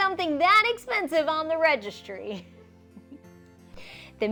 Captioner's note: chuckles